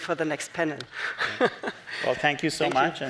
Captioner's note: chuckles